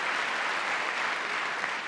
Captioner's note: applause